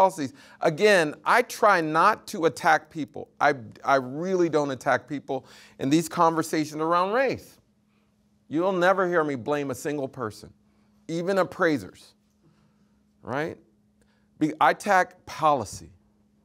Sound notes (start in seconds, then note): none